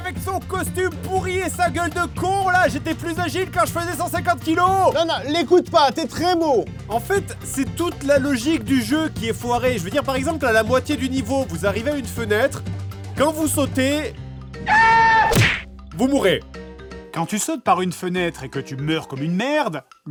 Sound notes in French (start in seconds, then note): 14.6 cri de Dingo